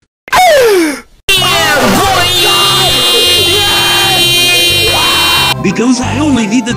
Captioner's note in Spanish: sonidos de felicidad